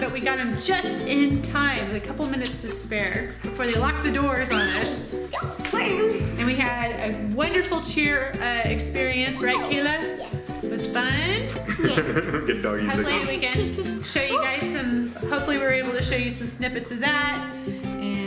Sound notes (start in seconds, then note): 5.0 squeals; 11.5 laughs